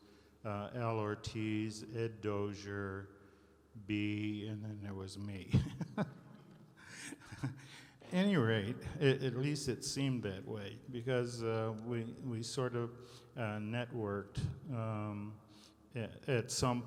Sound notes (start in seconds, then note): 5.6 laughing